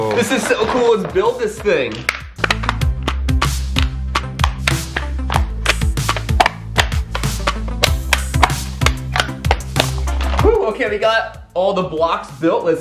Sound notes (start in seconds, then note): 1.8 tracks clicking together